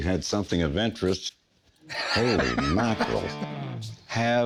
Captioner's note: Rick laughing